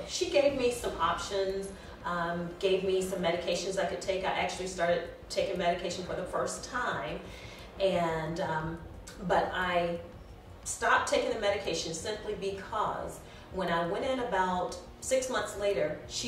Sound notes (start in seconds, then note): none